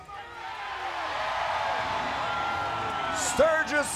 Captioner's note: cheering